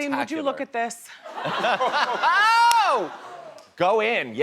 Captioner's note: laughter